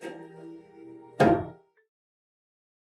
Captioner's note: metal cheek spank